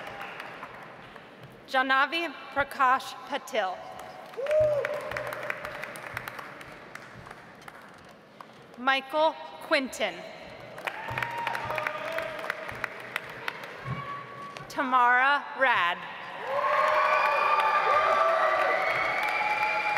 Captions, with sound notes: Janhavi Prakash Patil. (audience applauds) Michael Quintin. (audience applauds) Tamara Raad. (audience applauds)